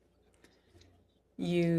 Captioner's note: speaking french